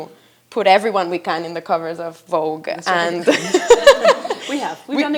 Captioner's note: laughs